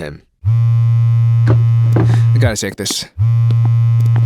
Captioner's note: phone vibrates